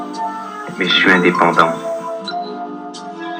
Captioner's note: romantic music; voiceover of man speaking in french; romantic music